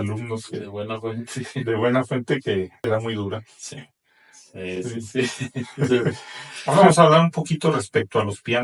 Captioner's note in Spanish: risas